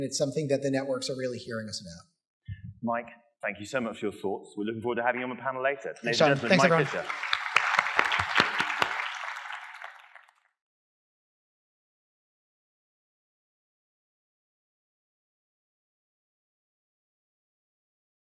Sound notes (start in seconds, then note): 6.0 applause